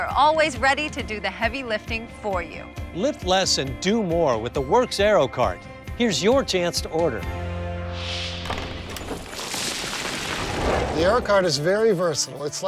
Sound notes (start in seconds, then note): 7.7 wind whooshes; 8.4 rocks clatter